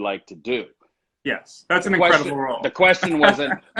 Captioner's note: laughs